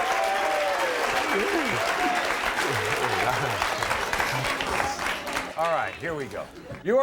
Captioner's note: applauding